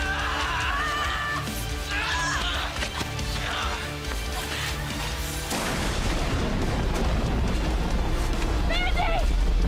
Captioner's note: grunts and groans